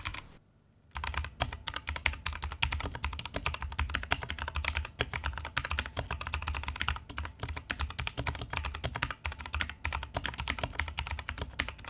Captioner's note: sound of the keyboard after modding